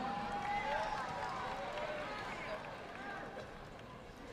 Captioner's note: audience clapping